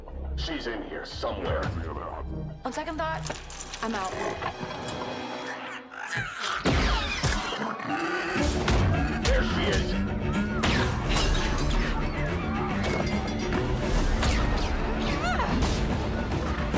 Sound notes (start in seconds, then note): 5.4 creature squeals; 7.0 alien roars; 11.7 yelling and crashing